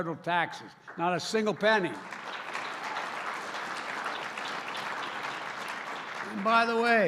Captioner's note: applause